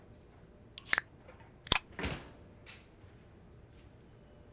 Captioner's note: tab clacks